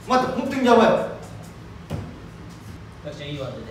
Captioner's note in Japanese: none